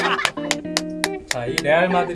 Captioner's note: barely holding laughter